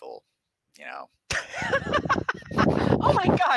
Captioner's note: laughs